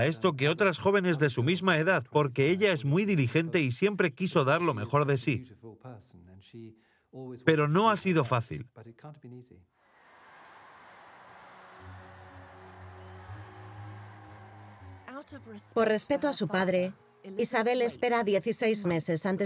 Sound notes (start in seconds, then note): 9.8 crowd cheering; 11.2 slow music